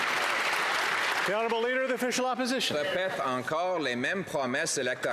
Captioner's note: some Applause